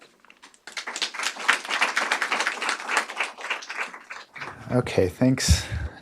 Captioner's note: audience applause